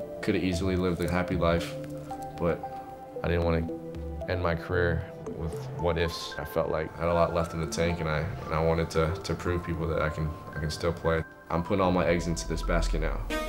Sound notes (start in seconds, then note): none